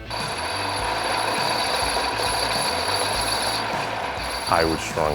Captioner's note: machine running